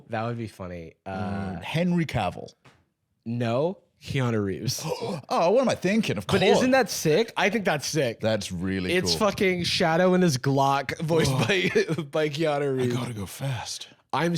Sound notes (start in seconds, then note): 4.8 gasps